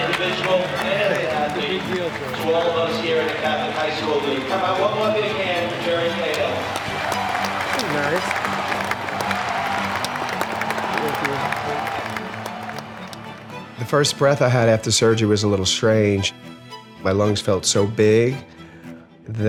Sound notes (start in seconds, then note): 5.1 applauding